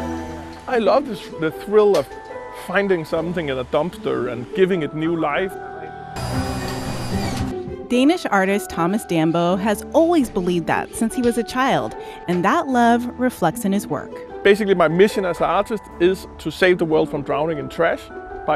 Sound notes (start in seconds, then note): 0.0 whimsical music; 6.1 drills whirring